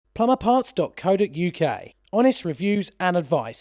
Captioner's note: voiceover